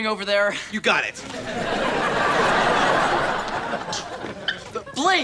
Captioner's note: audience laughter